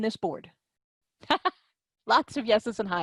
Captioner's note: laughter